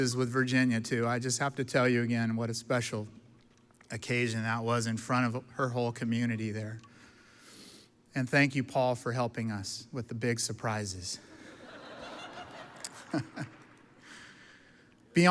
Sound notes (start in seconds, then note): 11.4 audience laughs; 12.7 chuckles